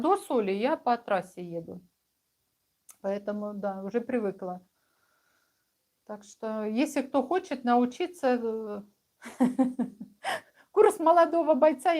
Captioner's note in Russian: смех